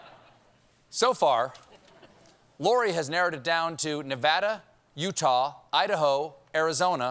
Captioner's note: laughter